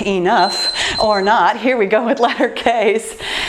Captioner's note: timer beeping